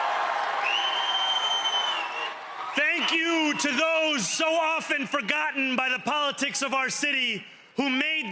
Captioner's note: speaking another language